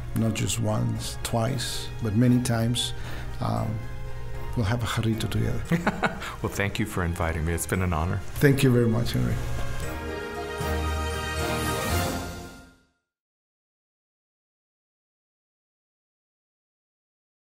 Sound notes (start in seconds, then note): 5.7 laughing; 10.3 instrumental music